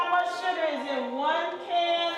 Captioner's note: voiceover